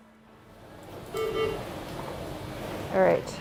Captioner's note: machine beeping